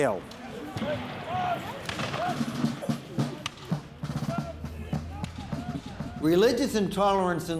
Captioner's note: shouts, gunshots, and drums